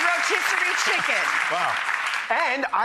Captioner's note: applause